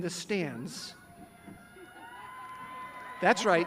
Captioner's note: graduates cheering